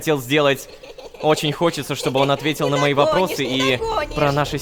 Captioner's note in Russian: Шум детей